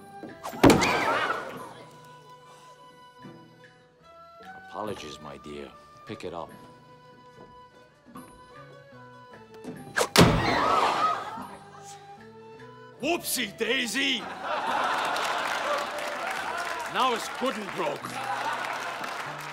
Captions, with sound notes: (CROWD GASPING) Apologies, my dear. Pick it up. (CROWD GASPING) Whoopsie-daisy! (ALL LAUGHING) Now it's good and broke!